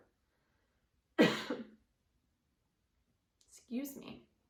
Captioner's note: coughs loudly